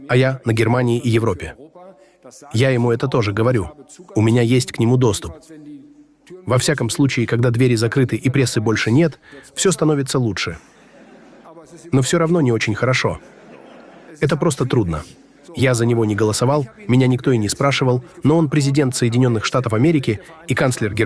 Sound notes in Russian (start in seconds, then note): 10.7 слышен смех; 13.2 смех